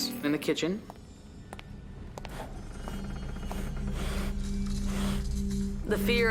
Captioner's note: footsteps